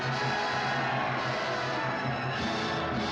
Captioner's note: cheering